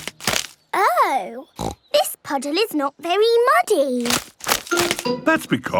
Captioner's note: snorting